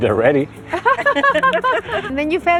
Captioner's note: laughter